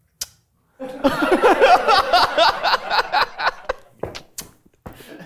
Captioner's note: everyone laughs